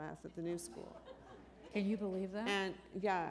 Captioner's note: laughter